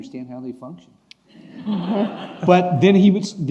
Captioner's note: laughing